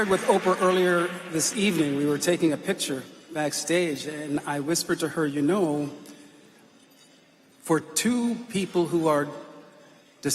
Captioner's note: applause